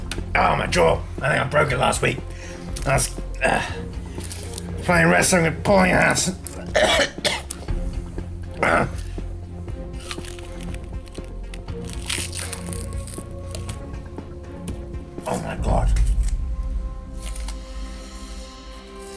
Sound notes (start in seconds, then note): 6.6 coughing?; 8.6 grunt